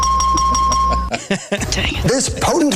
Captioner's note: bell dings